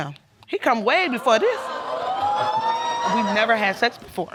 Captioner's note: audience whooping